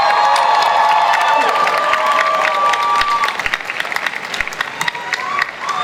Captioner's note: audience cheering and applause